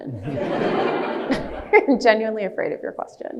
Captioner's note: audience laughs